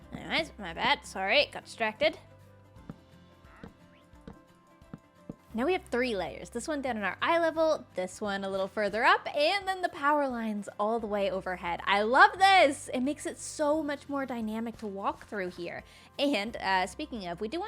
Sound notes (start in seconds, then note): none